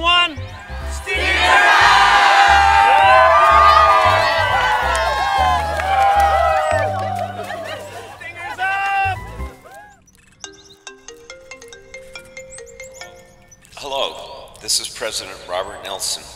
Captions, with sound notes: [ Cheering ] >> Stingers up! [ Ringtone ] Hello, this is President Robert Nelsen.